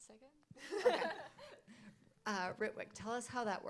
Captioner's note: laughing